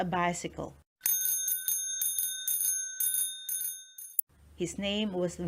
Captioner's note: bicycle bell ringing